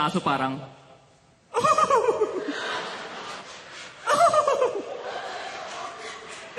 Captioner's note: laughing and barking at the same time